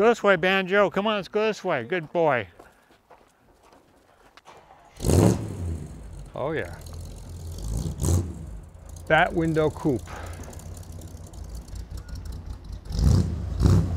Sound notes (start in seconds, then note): 4.5 engine roars